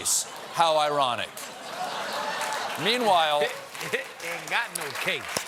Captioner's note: applause